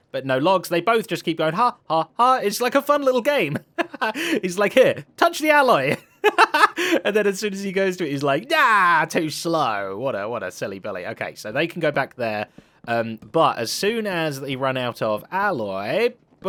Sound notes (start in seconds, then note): 3.6 laughs; 6.5 laughs